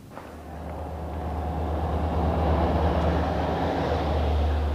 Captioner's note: car passing